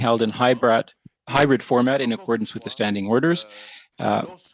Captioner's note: speaking French